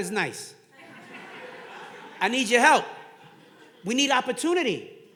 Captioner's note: audience laughing